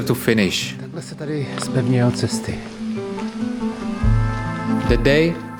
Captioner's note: Czech language